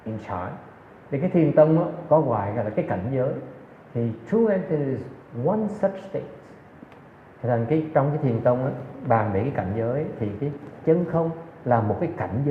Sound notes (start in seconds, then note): none